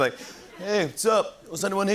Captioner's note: English accent